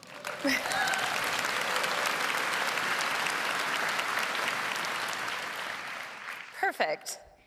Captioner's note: applause